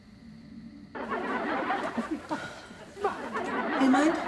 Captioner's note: laughter over TV